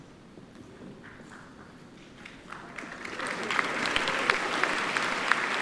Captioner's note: audience applauding